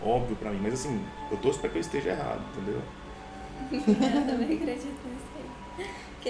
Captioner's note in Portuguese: Risos